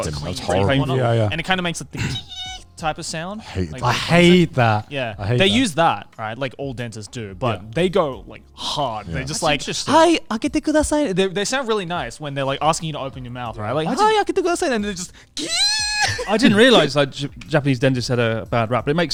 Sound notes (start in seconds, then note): 1.9 squealing; 10.4 speaking in foreign language; 13.8 speaking in foreign language; 15.4 squealing